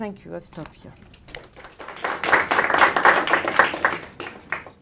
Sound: audience applauds

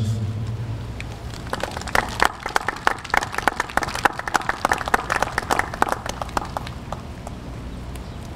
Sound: applause

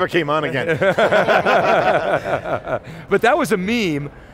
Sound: laughing

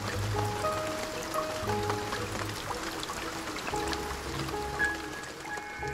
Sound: rain falling, music

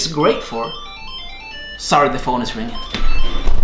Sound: phone ringing

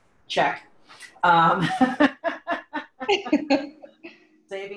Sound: both laugh

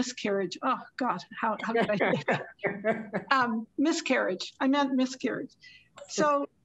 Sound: laughter

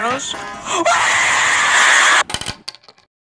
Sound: inhale

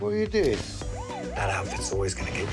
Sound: sirens wail

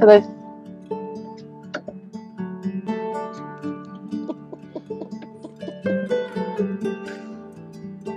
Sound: laughs

